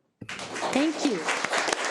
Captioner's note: audience applauding